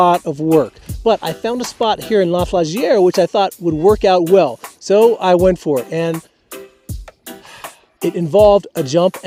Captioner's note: sigh